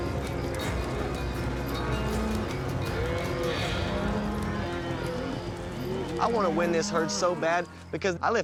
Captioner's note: cattle moo